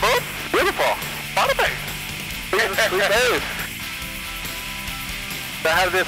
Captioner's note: laughs